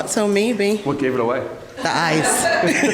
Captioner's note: laughs